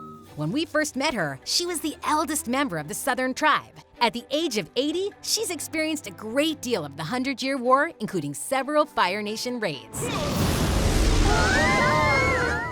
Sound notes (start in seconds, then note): 9.8 grunting; 9.9 screaming